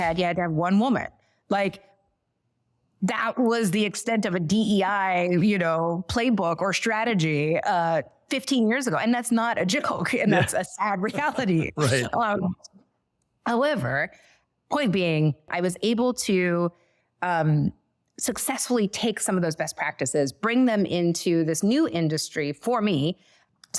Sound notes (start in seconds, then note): 11.1 both laughing